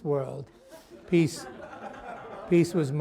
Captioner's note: laughter